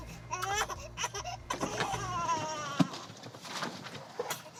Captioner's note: crying